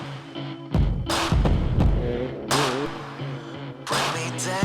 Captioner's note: motorcycle revving